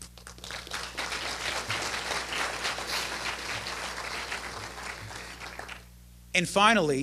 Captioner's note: applause